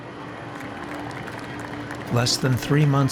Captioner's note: crowd applauding